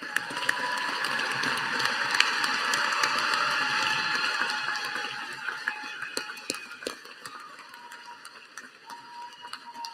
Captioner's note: applause